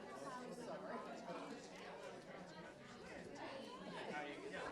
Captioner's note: people talking